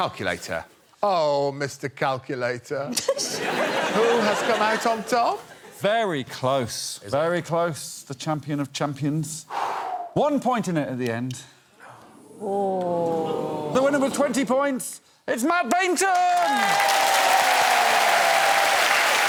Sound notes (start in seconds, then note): 3.2 laughs; 9.5 exhales